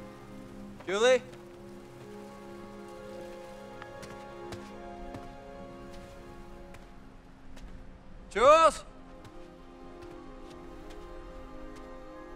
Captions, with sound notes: "Julie?" (yells) "Jules?!"